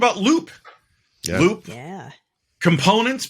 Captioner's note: laughing